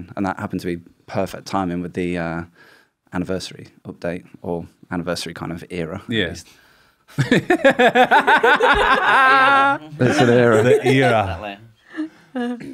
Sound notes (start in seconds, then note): 7.2 tired laughter